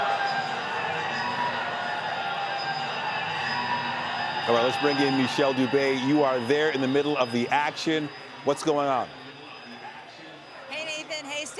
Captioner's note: cheering and Applause